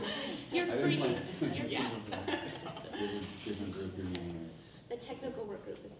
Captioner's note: people laughing; laughing drowns out speakers